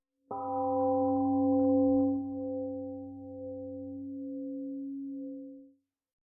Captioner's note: temple gong rings and fades